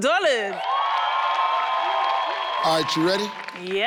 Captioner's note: audience yelling